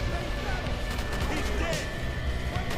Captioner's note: rapid gunshots